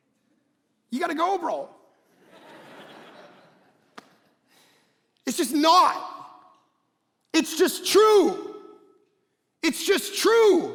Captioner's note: congregation laughing